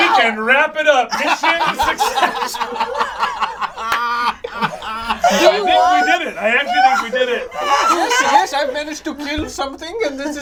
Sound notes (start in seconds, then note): 2.8 all laugh; 7.8 laughs hysterically